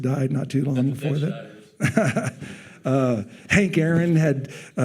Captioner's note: laughing